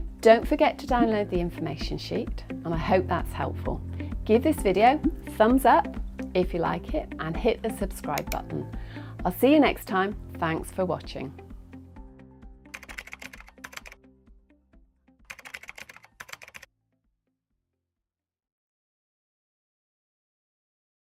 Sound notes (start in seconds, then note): 12.8 typing